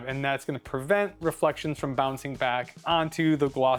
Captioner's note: none